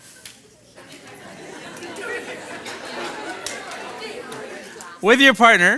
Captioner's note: participants conversing